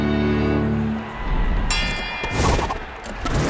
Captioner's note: dinging